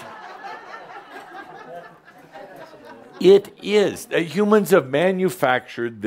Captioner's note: laughter